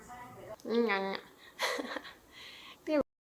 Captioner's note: laughs